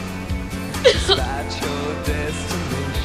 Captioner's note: sobbing